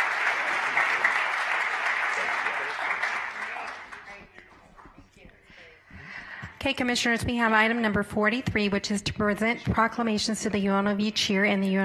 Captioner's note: applause